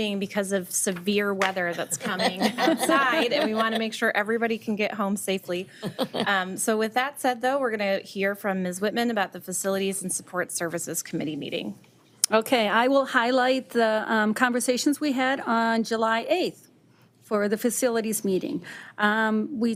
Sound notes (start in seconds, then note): 1.7 all chuckling